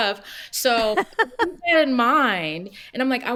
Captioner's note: laughs